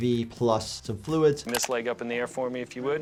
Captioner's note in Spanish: clic del mouse